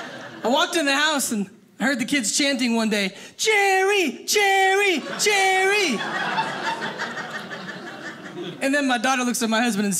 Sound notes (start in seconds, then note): 5.0 audience laughing